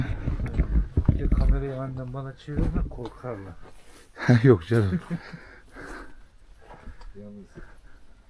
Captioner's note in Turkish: kahkaha